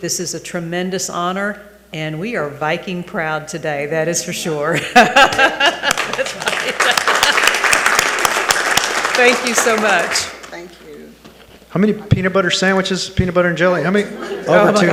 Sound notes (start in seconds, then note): 4.8 laughing; 7.4 attendees applauding